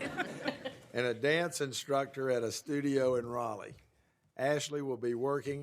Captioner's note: laughter